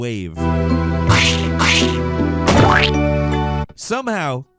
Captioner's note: splatting sound effect